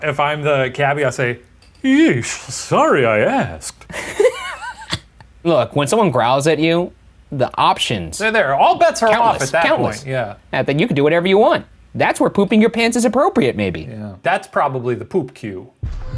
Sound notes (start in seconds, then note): 3.8 laughing; 15.8 intense music